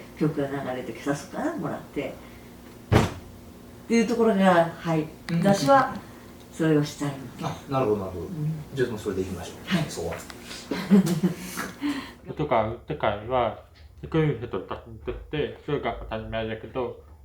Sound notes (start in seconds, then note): 2.9 a sound like the first step of a tap dance